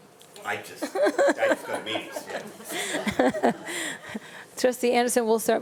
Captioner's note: panelists chuckling